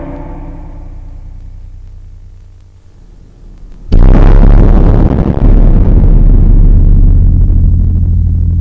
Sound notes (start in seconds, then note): 3.9 boom